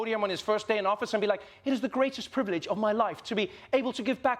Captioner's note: british accent